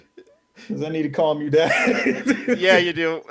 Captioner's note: laughing; more laughing